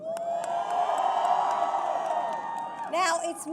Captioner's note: applause